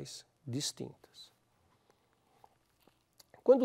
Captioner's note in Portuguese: pausa sonora